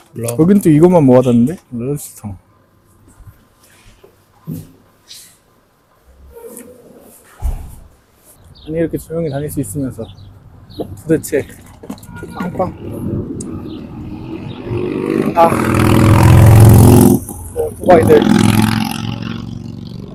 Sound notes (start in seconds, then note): 12.0 spoke too soon—did a horn just go off?